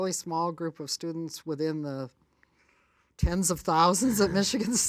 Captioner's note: laughs